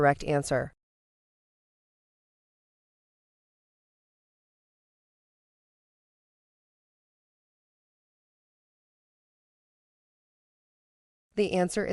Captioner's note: no audio